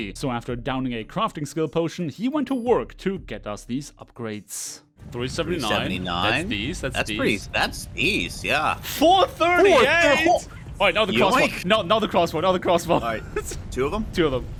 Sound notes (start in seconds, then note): 11.1 shocked Noises